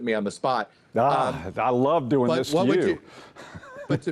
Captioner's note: laughs